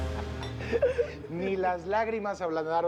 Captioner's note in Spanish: Risas